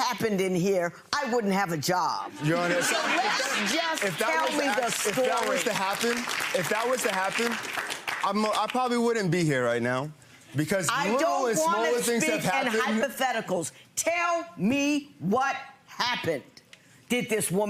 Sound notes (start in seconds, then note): 2.4 audience laughs; 5.8 audience claps